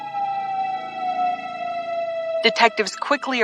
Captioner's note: siren blaring